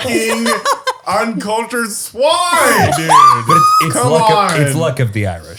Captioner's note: laughing